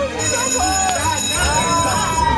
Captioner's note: group indistinctly chattering; bell rings